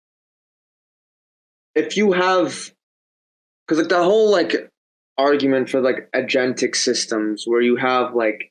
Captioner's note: none